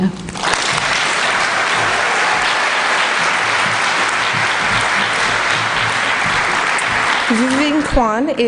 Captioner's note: applause